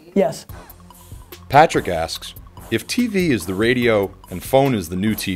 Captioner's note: voiceover